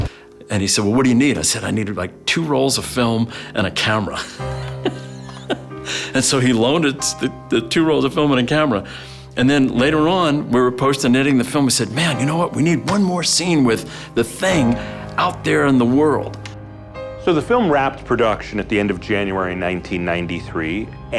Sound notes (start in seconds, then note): 4.1 laughter